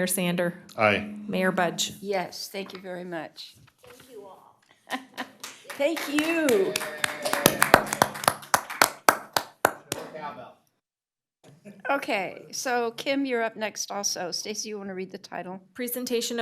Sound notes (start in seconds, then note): 10.1 applause